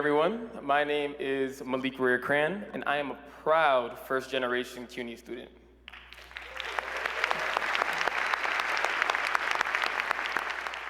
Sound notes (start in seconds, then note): 5.8 applause